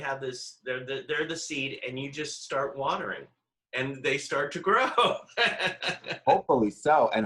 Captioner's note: laughs